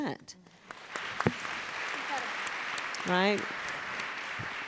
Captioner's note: applause